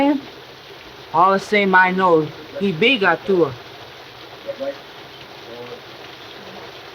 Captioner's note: speaks foreign language